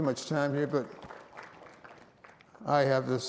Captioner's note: audience applauding